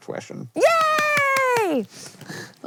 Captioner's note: clapping